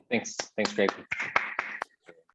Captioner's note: clapping